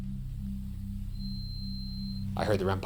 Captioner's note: beep